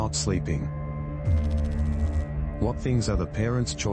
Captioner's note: electrical noise